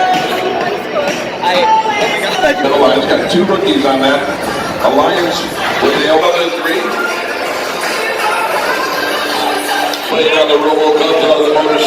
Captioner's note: game caster describing the match in the background